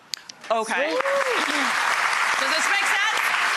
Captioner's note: applause